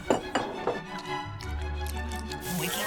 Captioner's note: munching